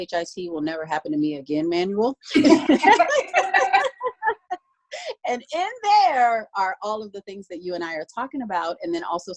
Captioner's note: laughing